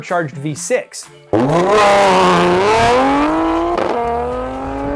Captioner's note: engine revving